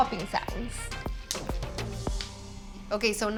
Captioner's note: seeds popping